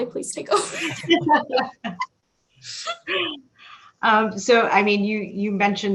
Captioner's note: laughing